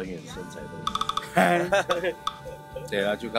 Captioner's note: laughing